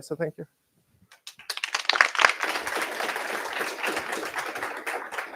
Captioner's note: applause